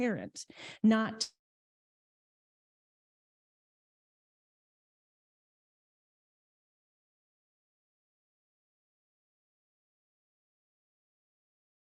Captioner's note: audio cuts out